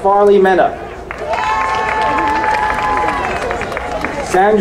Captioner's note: crowd cheering